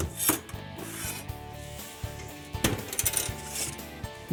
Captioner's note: thud